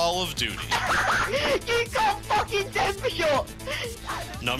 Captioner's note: laughs